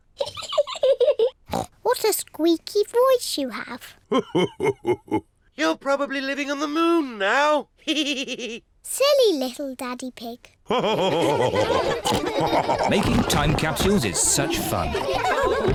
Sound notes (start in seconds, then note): 0.2 laughs; 8.2 chuckles; 10.7 all laugh